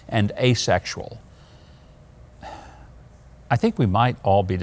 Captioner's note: Mike sighing